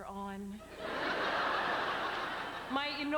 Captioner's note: laughter